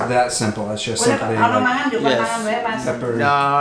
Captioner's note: speaking Indonesian in background